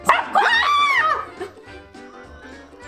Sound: dog barking; shrieking; laughs

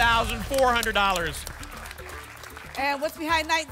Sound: applause and cheering

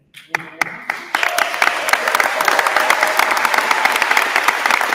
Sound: attendees applauding

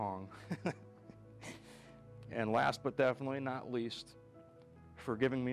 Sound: chuckles

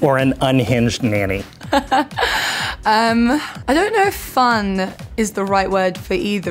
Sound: laughs

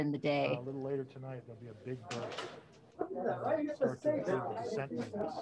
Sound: scientists chattering quietly

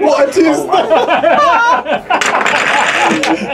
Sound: all laugh

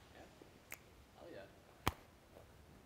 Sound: snaps fingers

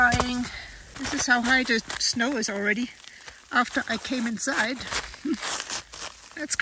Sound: laughs

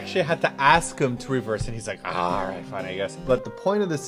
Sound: grumpily

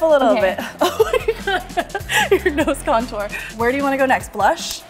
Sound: laughs

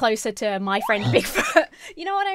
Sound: laughs

